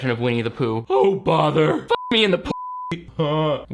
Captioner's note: beep